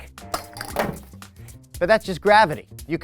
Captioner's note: eggs splashing